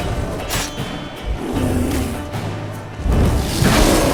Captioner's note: growl; roar